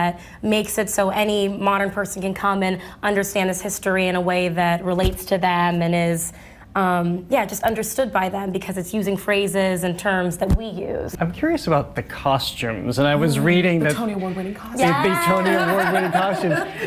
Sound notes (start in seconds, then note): 13.0 dramatically; 14.8 laughs